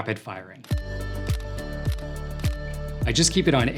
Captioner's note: upbeat music; camera clicking